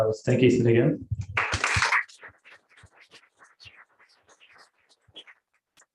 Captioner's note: applause